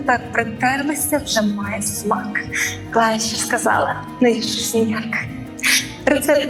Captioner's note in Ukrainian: сміх